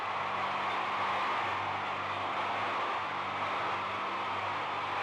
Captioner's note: crowd cheers and shouts